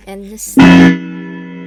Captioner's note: clock chimes